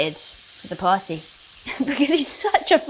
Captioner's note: food sizzling; Bella chuckling